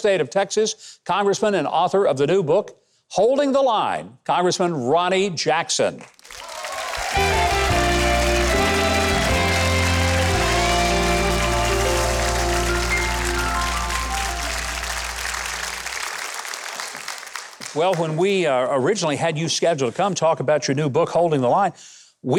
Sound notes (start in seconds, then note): 6.4 audience applauding